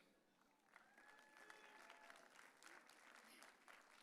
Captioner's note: audience cheering